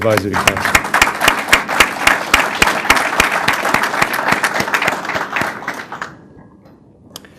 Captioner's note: applause